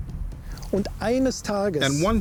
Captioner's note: man speaking German